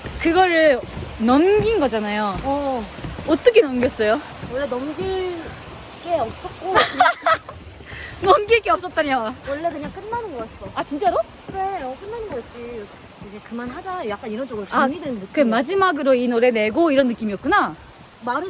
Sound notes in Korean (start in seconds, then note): 6.7 웃음